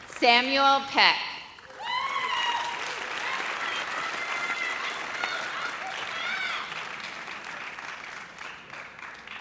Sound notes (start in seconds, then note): 0.0 audience applauds; 1.6 audience cheers